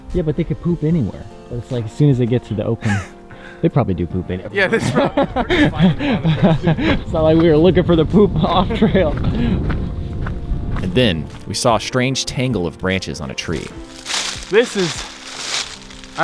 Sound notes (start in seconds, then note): 4.1 laughs; 4.2 both laugh